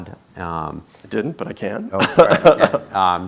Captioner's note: laughing